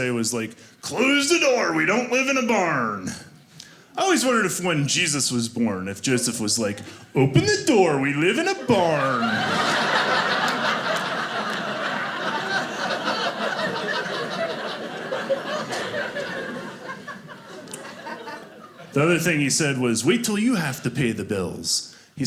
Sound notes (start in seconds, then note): 8.6 audience laughing